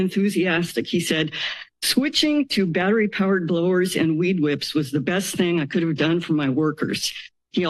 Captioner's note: none